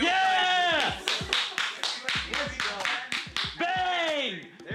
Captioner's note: clapping